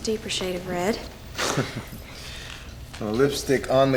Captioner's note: chuckles